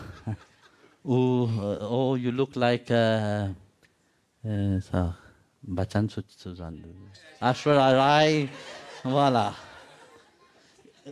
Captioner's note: the audience laughs